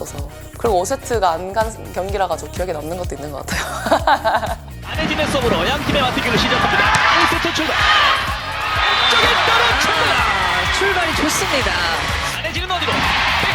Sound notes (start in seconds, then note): 3.8 laugh